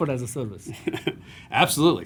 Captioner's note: laughter